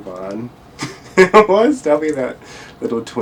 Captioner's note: laughs